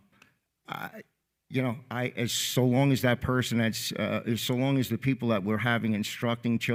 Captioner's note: stutters